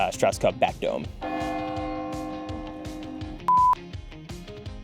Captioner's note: bell tower ringing